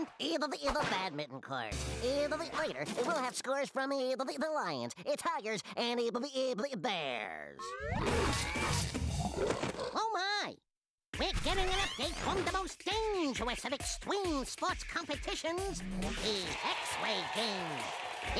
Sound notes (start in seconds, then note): 7.9 growling